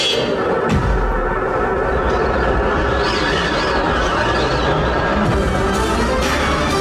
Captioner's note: strong wind